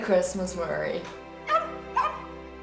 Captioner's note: barking